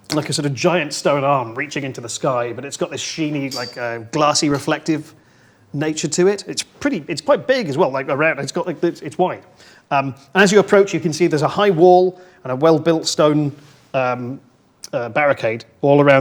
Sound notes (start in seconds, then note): none